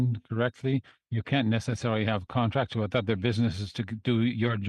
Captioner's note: speaking French